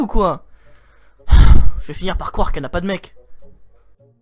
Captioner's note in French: soupir